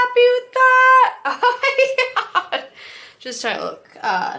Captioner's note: laughs